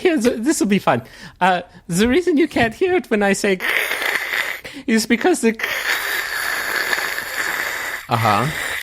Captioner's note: static noice; static continues; extended static